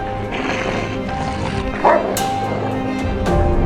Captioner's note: wolf growling